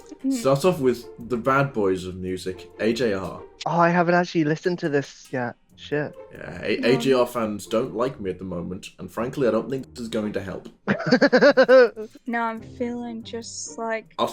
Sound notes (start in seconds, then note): 10.8 laughter